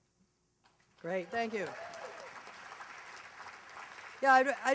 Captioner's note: applause